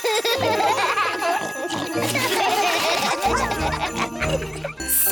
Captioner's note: all laugh; snorts and giggles